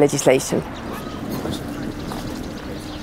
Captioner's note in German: Vogelzwitschern